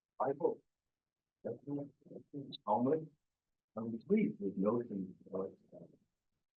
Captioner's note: presenter speaking faintly off mic